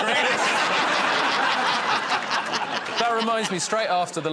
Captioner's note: laughter